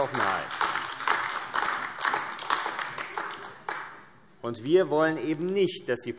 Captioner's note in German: Beifall AfD und vereinzelt Freie Demokraten